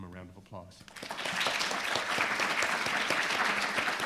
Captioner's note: applause